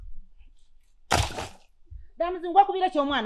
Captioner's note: firewood bumps